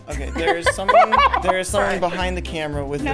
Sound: cast members laugh

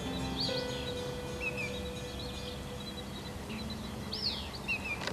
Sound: birds chirping

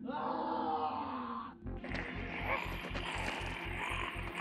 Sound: snarling

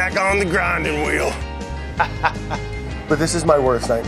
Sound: laughs

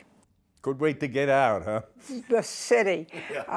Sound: laughs

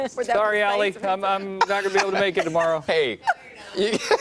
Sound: laughter

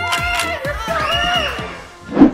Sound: screaming

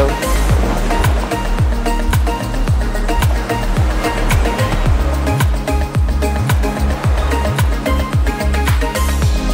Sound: sound of waves

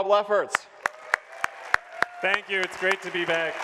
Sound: audience applauds

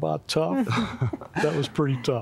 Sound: laughter

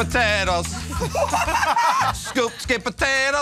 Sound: laughing

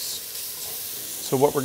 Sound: pan sizzling

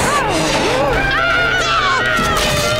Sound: screaming

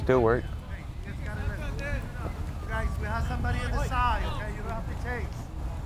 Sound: players talking and yelling

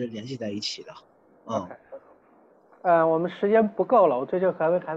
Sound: Mandarin

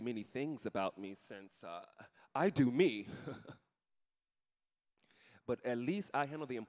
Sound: chuckling

